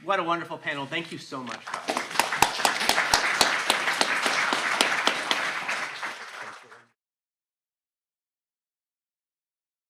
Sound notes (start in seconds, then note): 1.6 audience clapping